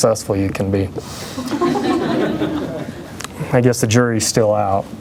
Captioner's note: laughter